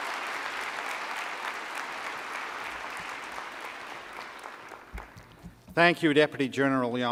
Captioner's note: applause